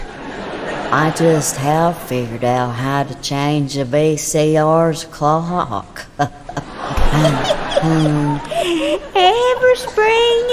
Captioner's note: laugh